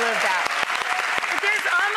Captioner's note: crowd clapping